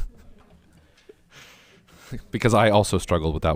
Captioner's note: all chuckling